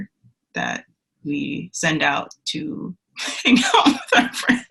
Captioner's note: laughs